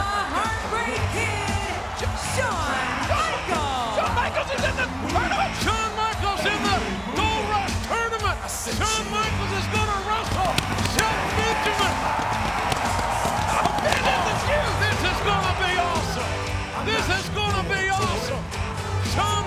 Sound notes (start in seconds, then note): 12.2 audience cheering; 12.2 pyro popping